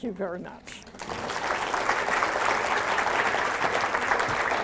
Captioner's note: applause